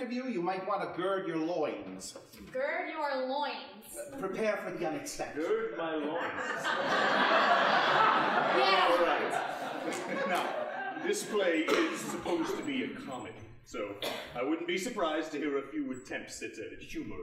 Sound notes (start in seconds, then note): 6.0 laughing awkwardly; 6.3 audience laughing